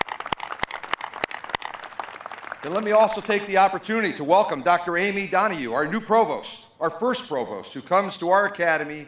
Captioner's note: applause